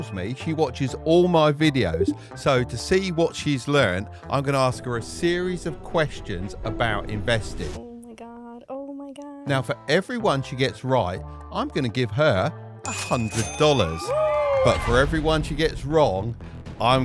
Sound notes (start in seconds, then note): 12.9 bell dinging